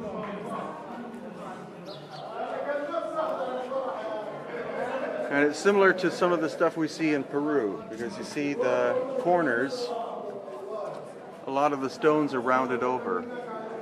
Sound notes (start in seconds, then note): 0.8 tourists chatting